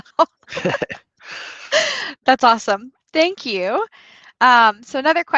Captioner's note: laughter